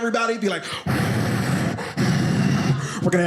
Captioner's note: makes wind noises